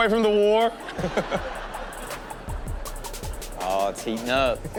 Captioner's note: audience laughs